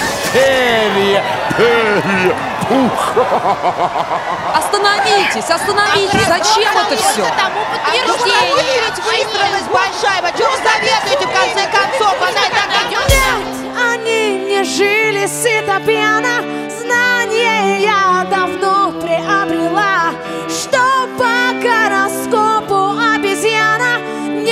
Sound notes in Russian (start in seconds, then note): 8.2 Шум в зале